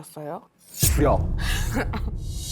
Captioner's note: Why even ask? sound effect